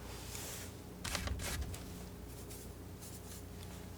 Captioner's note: scratching